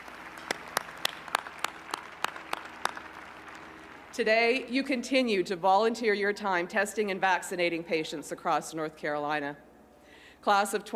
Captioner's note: applause